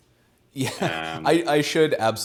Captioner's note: laughs